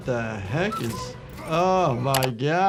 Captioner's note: cuckoo tweets